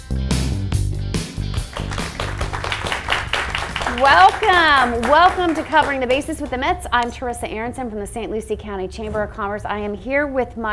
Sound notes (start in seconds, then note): 0.0 upbeat music; 2.8 audience clapping